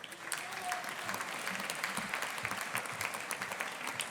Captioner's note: audience applauding